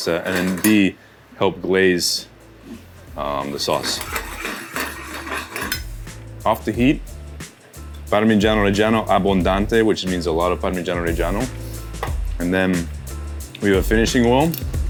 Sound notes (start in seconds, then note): 3.4 pan rattling; 4.2 gentle music; 9.0 speaks Italian